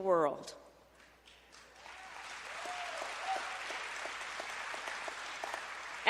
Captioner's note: applause